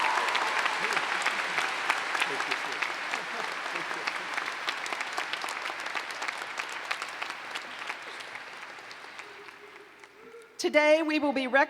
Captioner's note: cheers and Applause